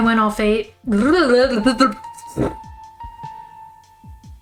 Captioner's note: noises of messing up